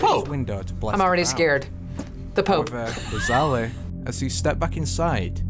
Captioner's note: laughs